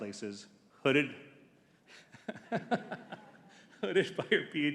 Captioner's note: chuckles